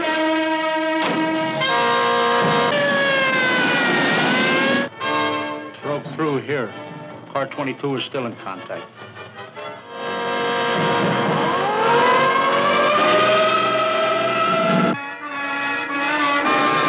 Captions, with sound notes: (siren wailing) - Broke through here, Car 22 is still in contact. (suspenseful orchestral music) (siren wailing)